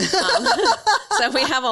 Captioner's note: laughing